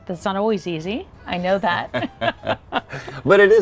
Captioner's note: both laughing